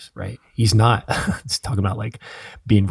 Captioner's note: chuckling